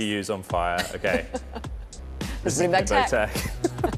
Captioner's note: laughter